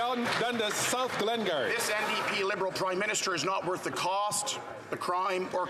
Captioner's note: some Applause